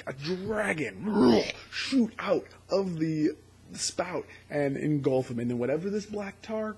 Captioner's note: roars